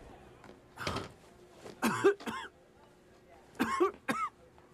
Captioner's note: coughs